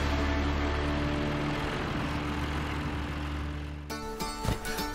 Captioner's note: tractor rumbling